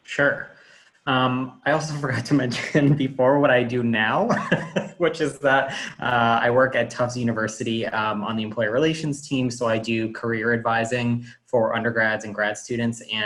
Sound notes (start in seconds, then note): 4.2 laughs